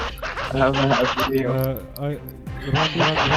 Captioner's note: manical Laughing again